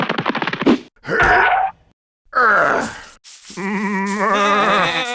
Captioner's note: Shepherd exerting; sheep bleating